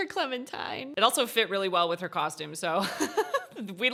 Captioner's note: chuckles